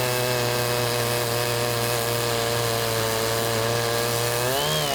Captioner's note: chainsaw humming